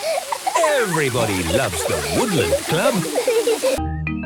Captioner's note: laughter